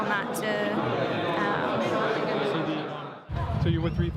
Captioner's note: crowd talking